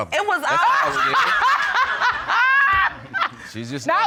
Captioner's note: laughing loudly